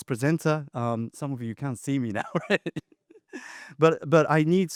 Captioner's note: laughs